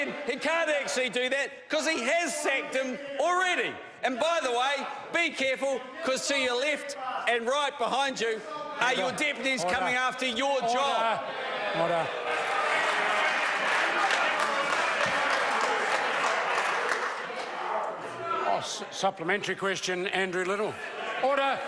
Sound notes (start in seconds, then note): 12.4 members applaud